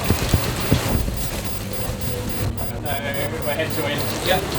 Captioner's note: alarm sounds